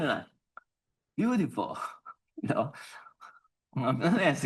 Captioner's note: laughs